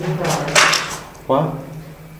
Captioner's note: loud bang